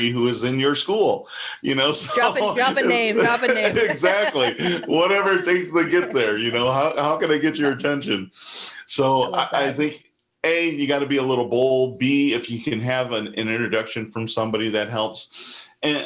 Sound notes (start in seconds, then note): 3.8 laughs